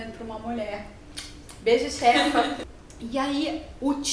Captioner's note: laughs